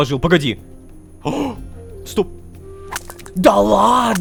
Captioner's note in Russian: Звук добычи киркой